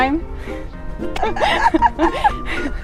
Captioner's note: both laugh